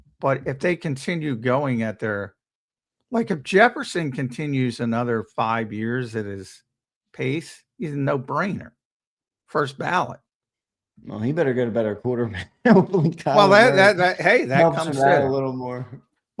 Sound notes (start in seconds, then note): 12.3 laughs